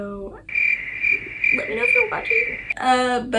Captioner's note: crickets